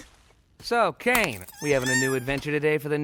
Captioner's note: whimpers